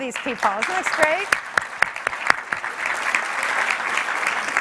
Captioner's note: clapping